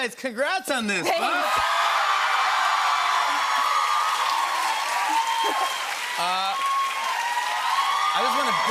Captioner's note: cheers and applause